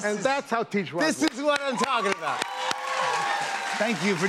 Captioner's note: cheers and applause